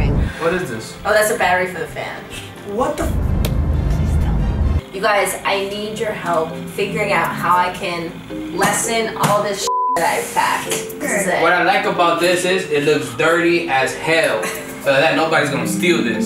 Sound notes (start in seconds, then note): 3.4 hands clap; 9.6 beep